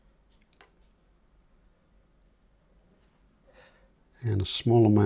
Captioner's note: silence